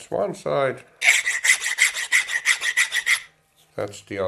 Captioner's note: filing noises